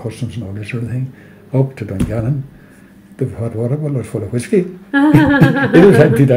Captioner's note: both laugh